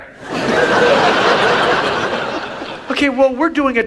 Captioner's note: audience laughs